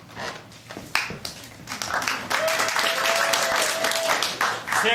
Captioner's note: applause